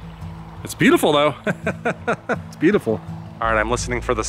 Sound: laughter

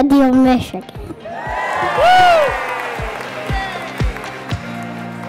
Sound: audience cheers; soft music

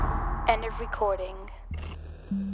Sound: automated voice

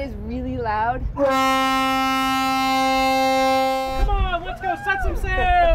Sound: horn blaring

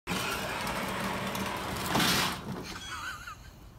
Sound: engine revs; man laughing

